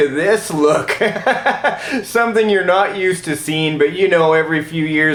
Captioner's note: laughs